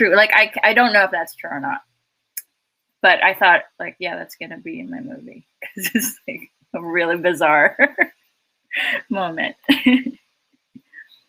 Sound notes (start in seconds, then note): 9.8 laughs